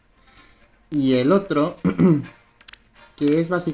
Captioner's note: ahem